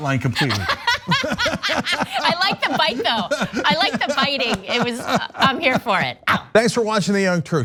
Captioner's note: laugh